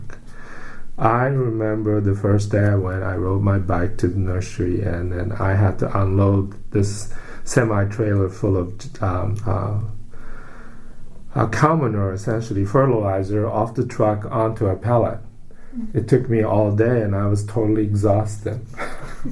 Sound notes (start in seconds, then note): 10.1 breath; 18.7 laughs